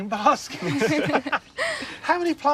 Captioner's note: all laugh